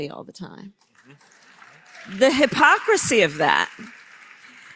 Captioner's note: applause